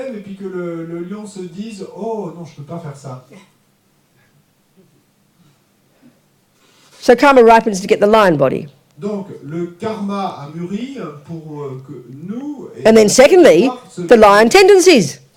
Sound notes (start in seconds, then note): 9.1 audience member speaks in French